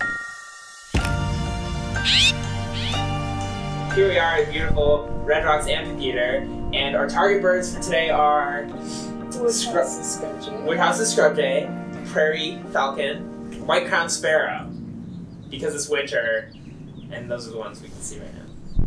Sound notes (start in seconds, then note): 2.0 bird call